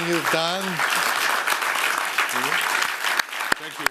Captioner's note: applause